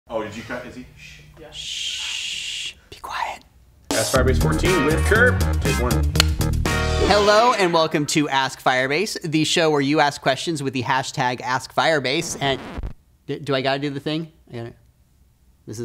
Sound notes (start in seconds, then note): 12.0 record scratch sound